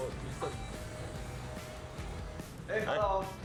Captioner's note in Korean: 문열리는 소리